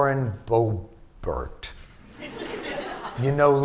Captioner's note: laughter